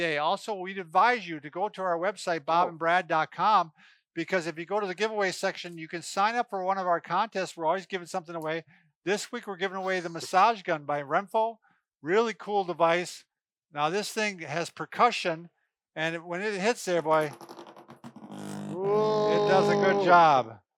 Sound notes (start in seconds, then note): 17.1 vibrates